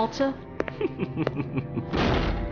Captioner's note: sophisticated chuckle